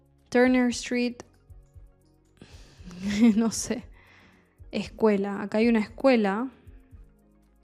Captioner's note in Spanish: risas